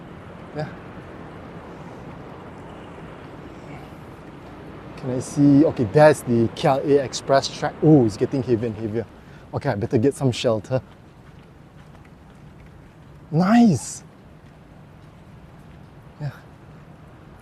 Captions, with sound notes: Can I see...okay, that's the KLIA express track. Oh, it's (the rain) getting heavy and heavier. Okay, I better get some shelter. Nice.